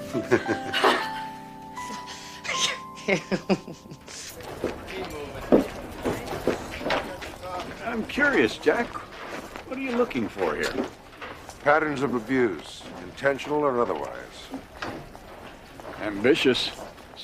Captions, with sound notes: (Jack laughs) (Alice laughs) Keep moving. I'm curious, Jack, what are you looking for here? Patterns of abuse, intentional or otherwise. Ambitious.